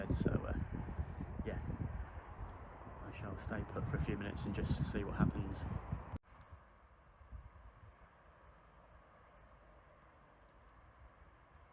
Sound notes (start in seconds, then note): 7.5 distant Traffic noise